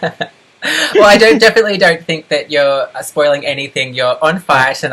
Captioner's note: laughs